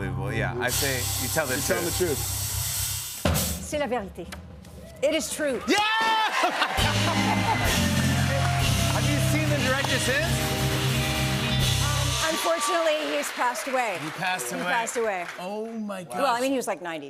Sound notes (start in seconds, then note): 5.7 laughs; 7.1 cheers and applause